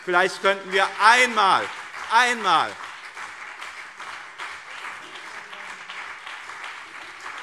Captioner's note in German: Beifall BÜNDNIS 90/DIE GRÜNEN und CDU